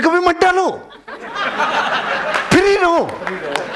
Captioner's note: laughing